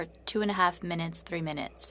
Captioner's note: speaking French